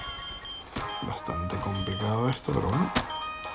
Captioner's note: writing on keyboard